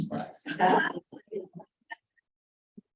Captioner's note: laughter